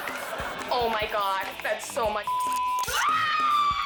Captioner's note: audience laughing; beep; pet owner screaming